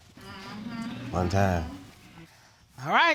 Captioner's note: audience murmuring